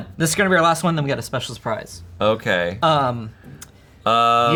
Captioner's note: none